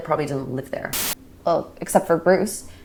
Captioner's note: camera buzzing